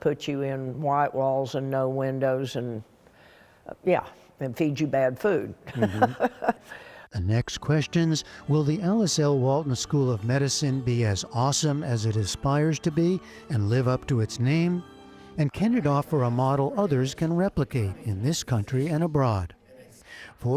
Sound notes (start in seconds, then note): 5.6 laughter